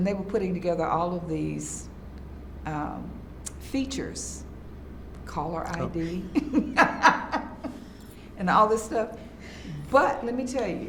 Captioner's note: laughs